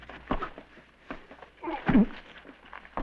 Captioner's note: thud